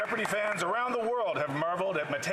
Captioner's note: some Applause